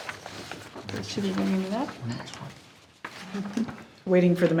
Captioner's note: speaks faintly